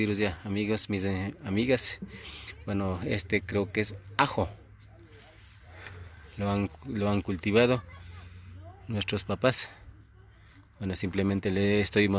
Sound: repeats the same words in Spanish

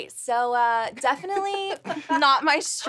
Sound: Melissa laughs

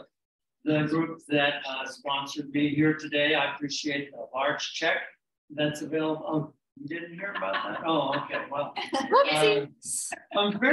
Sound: laughter

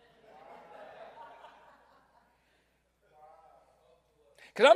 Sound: crowd laughs; crowd

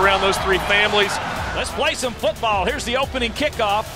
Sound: voiceover

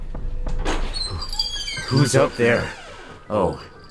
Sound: door squeaking

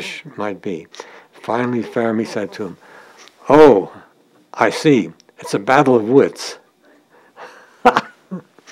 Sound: chuckle

